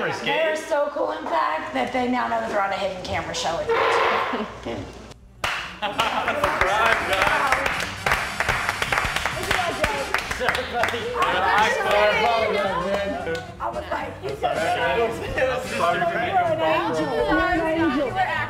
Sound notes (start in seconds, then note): 7.5 applause